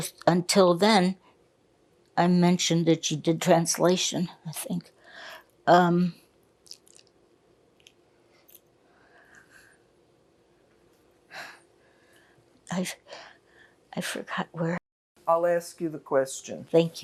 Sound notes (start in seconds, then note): 5.3 pauses 8 seconds